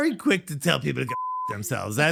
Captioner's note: beep